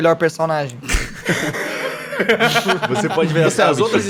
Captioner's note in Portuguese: Risos